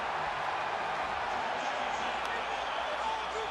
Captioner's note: crowd cheering